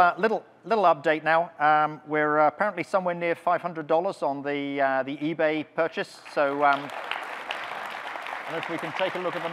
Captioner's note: audience clapping